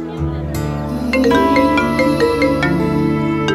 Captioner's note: Cell phone ringing